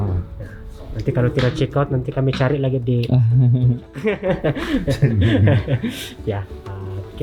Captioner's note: laugh